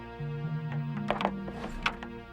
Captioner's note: yelling; rock music